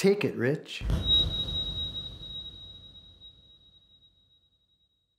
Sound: high pitched humming

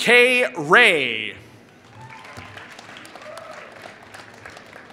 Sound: applause

